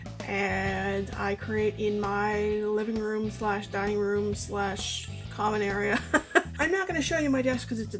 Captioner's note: laughs